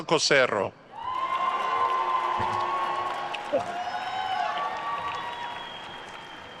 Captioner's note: attendees cheering and applauding